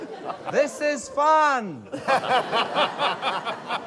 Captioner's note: laughter